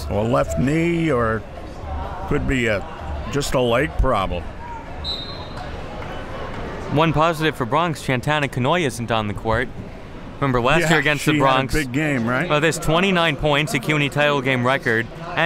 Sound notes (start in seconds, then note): 5.0 whistle blows